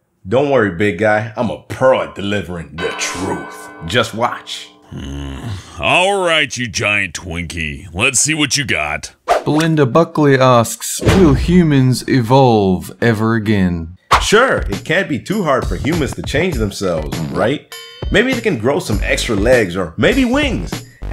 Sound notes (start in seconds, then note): 4.9 Hellbent grunts